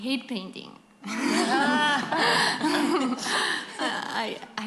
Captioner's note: laughter